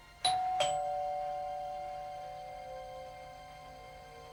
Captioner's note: doorbell rings